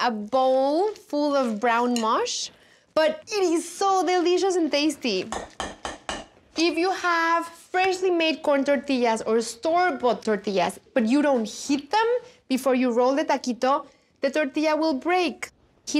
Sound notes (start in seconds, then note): 5.2 Masher taps on bowl